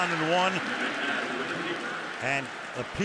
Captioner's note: cheering